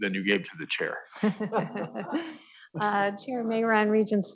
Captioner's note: laughing